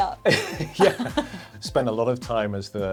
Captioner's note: laughs